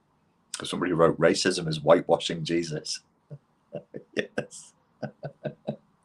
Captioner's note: laughs